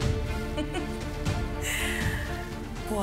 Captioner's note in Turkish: Gülüyor